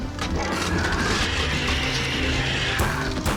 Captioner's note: crackling wood; continued roars, screeches; gunfire